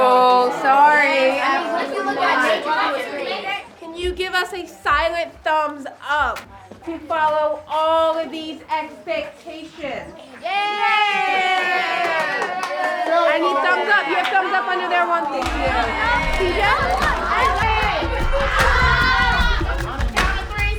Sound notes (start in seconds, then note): 0.0 kids mumbling; 10.6 kids cheering; 17.3 upbeat music